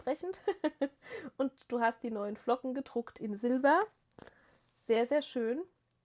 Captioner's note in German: gelächter